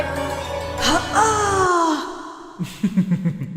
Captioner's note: soul removing noise; gay laughter